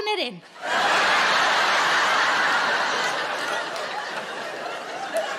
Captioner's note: audience laughing